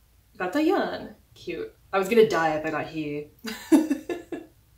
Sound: laugh

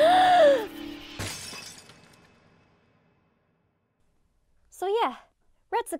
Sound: loud gasping; soft shattering

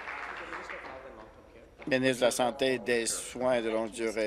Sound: applause

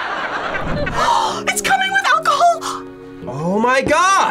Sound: gasps

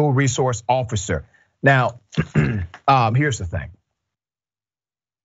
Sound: cough

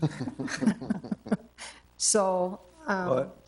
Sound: attendees chuckle

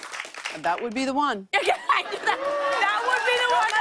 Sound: cheering and applause

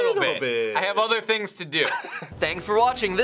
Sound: chuckles

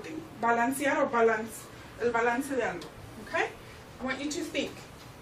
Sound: Spanish

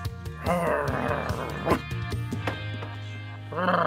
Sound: growling

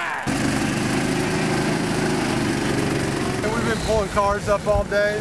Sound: engines roar

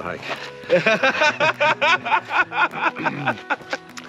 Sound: Ron laughing

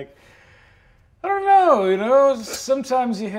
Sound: inhales softly

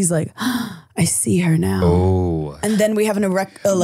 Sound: gasping

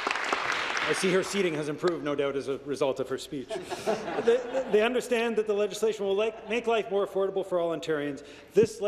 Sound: applause

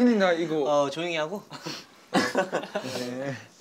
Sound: sniff

